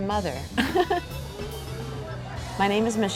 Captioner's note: laughs